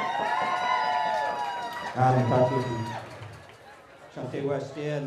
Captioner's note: cheers and applause; speaking native language